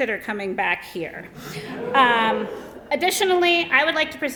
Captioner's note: laughter